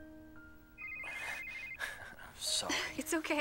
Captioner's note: cell phone ringing